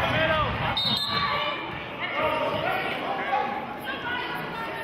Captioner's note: whistling